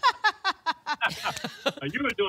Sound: laughs

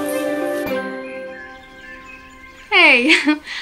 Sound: birds chirping

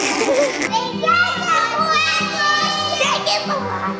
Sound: laughs; children shouting

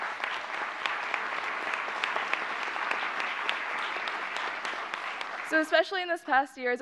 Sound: applause

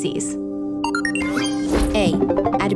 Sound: beeping

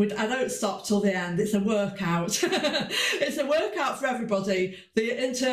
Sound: laughs

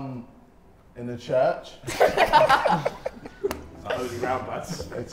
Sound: everyone laughs

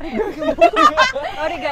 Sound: laughs

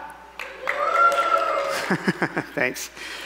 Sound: cheering

